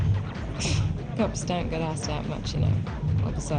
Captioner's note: chuckles